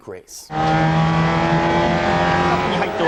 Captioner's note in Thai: เครื่องยนต์คำราม